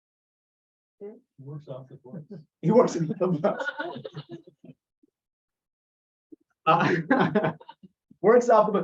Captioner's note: laughter